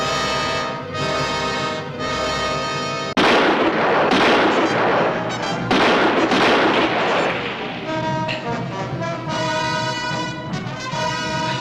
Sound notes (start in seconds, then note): 0.0 tense music; 3.1 gunshots